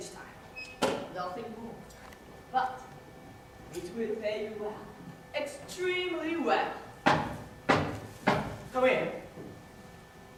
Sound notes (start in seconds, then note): 7.6 there is a knock at the door